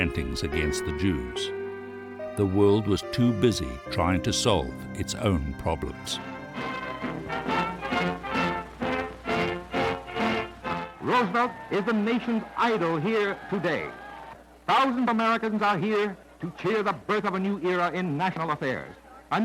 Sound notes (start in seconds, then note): 6.8 fanfare; 11.5 radio Announcer